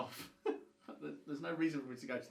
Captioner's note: chuckles